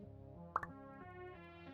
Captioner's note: pop